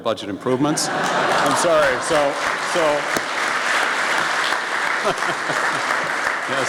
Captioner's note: laughing and applause from audience